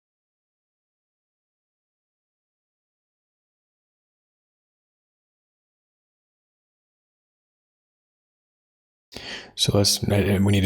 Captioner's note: blank Audio